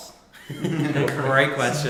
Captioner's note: all laughing